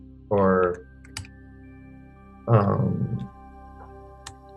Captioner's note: keyboard clicking